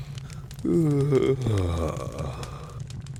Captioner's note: yawns